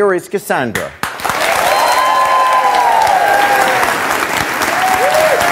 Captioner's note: audience clapping